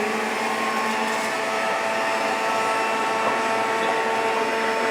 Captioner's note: juicer whirs